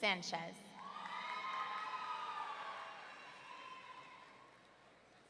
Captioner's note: audience cheering